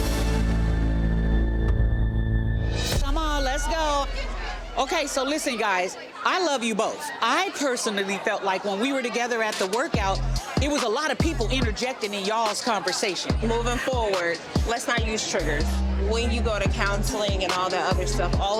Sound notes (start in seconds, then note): 0.0 tense droning music; 4.0 crowd chattering